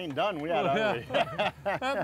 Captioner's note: both laughing